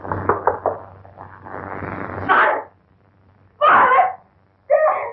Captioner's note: knocking